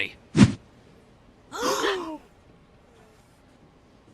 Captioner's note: gasping